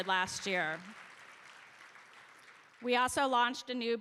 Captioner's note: applause